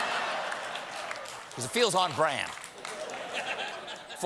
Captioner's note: laughter